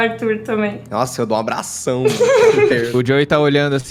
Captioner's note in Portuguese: Risos